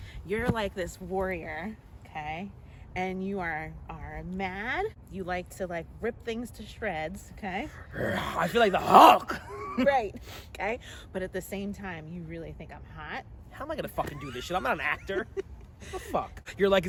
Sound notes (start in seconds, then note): 7.9 roar